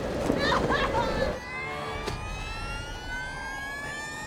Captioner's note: high-pitched whine